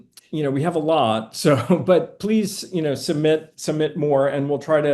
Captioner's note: chuckling